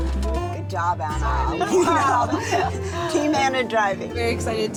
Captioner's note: laughing